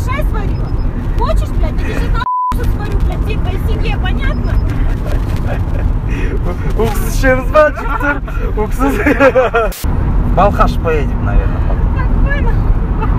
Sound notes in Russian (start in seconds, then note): 12.0 Смех